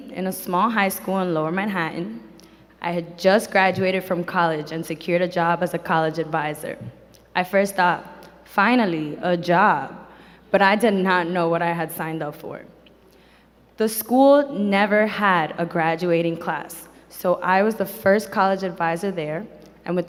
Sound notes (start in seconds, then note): none